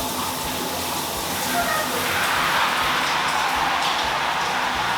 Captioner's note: pitiful battle cry